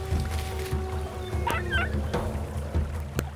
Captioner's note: wolf whimpers